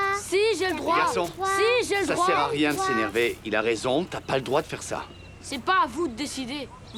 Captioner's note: cheering & commotion